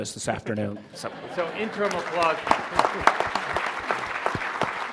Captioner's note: audience laughing